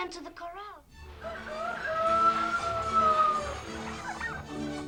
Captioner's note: rooster crowing